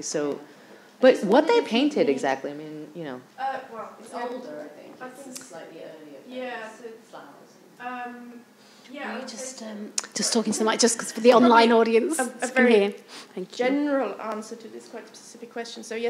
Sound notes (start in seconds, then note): 6.4 speaking faintly